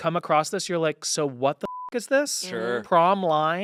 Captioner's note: beep